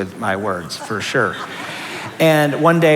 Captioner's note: laughter